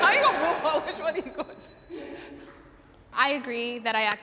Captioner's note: pitch whirring